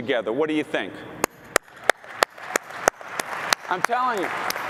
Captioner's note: applause